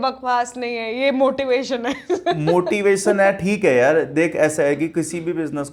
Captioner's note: laughs